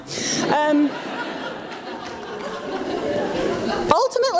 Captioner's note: audience laughs